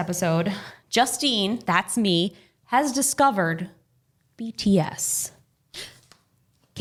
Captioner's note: gasps